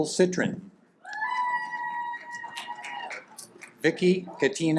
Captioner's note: audience applaud